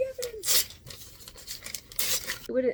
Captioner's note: ripping